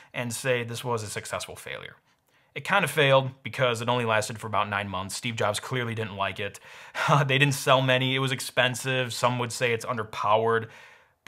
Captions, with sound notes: and say this was a successful failure. It kind of failed because it only lasted for about nine months. Steve Jobs clearly didn't like it. (chuckles) They didn't sell many, it was expensive. Some would say it's underpowered,